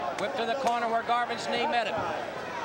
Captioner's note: crowd chattering; crowd cheering